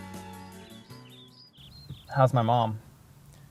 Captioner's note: birds chirping